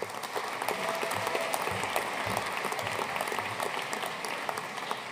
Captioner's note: audience cheering and applauding